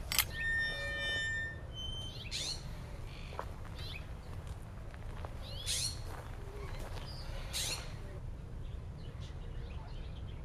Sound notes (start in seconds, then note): 0.0 creaking gate; 5.3 birds chirping